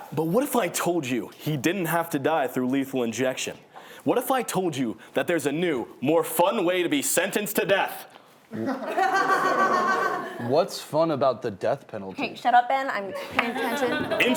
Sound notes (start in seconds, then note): 8.5 laughing